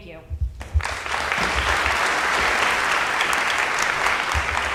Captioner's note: audience applauding